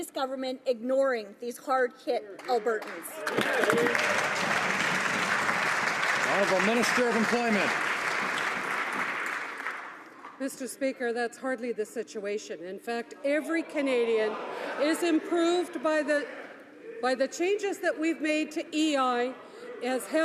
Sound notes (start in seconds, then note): 7.1 some Applause